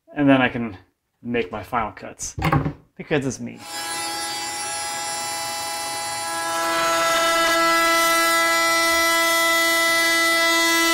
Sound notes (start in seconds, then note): 6.6 cutting wood